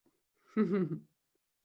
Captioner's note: laughing